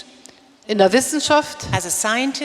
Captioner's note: speaking in German